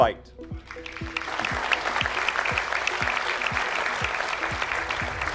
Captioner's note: applause